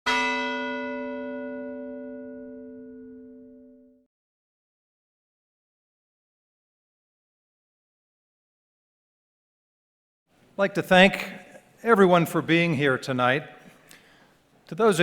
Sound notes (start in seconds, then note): 0.0 bell ringing